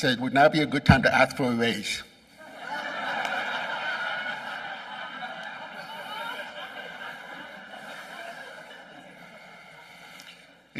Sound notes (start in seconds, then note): 2.5 laughing